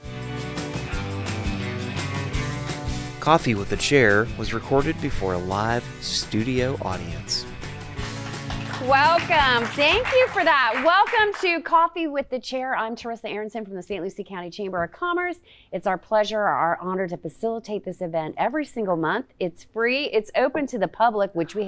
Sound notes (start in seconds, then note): 0.3 lively music; 9.5 audience applauding